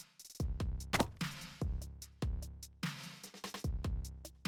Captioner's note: smashes